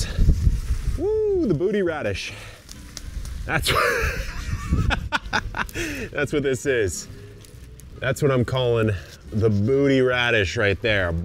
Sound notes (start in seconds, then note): 3.7 laughs